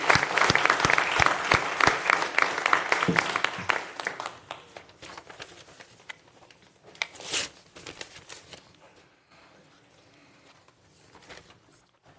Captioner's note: applause